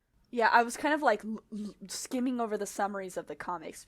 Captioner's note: none